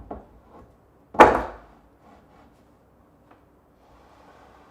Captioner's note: board clacking